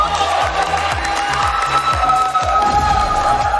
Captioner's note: clapping